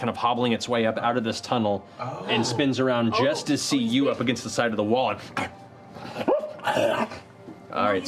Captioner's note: growls and yips